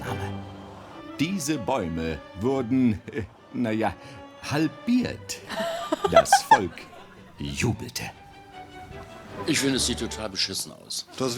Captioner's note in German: lacht